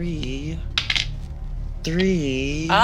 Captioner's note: die rolling